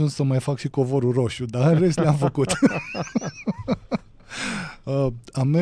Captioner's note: laughter